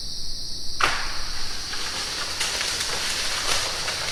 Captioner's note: ominous crackling